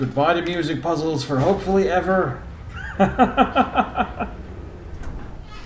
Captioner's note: laughs